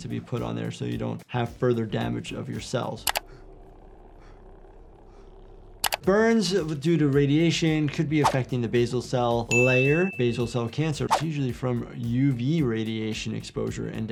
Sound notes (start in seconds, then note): 3.2 mouse clicks; 9.5 bell dings